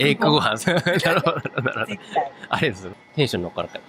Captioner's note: laugh